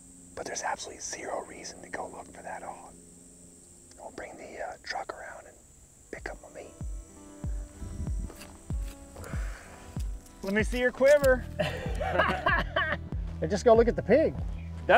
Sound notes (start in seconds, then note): 11.5 laughing